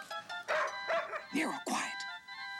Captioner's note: Nero barking